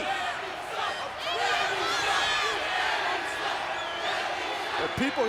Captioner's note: audience shouting